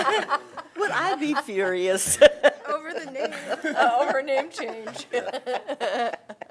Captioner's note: laughter